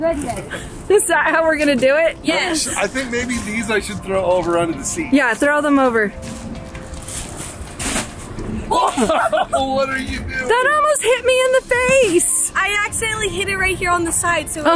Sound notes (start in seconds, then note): 8.6 laugh